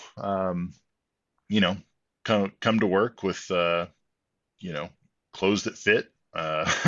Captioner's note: laughs